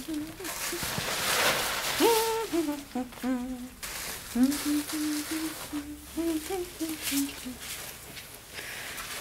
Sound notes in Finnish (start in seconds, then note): 0.8 Hyräilee